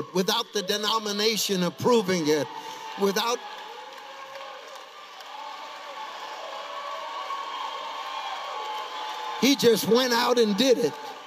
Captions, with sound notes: "without the denomination approving it." (congregation cheering) He just went out and did it.